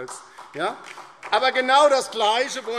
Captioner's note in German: Beifall DIE LINKE